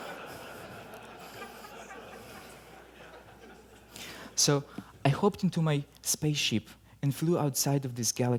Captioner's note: laughter